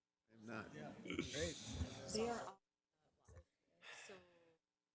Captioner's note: people murmuring